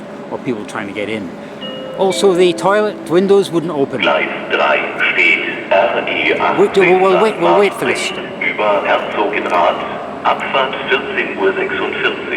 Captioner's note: station broadcast in German